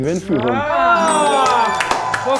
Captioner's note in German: Jubel, Applaus